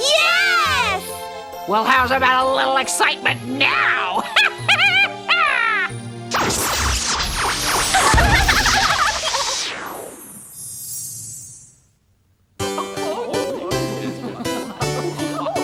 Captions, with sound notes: - Yes! - Well, how's about a little excitement now? (cackles) (giggling) (waltz music)